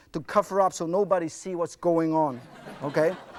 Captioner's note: crowd laughs